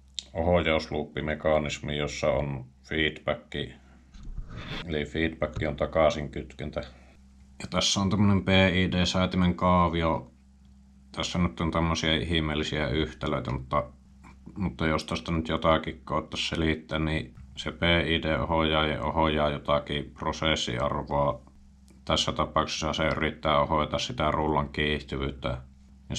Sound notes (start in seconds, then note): 6.5 in finnish